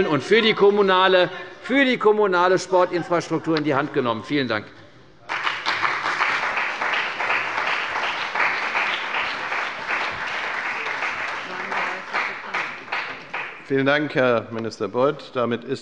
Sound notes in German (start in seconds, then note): 5.2 Beifall bei der CDU und dem BÜNDNIS 90/DIE GRÜNEN